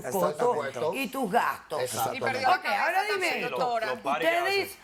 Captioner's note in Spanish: Hablan al unísono